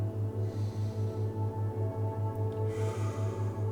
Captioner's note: exhales; inhales; exhales